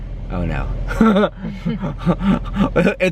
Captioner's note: laughs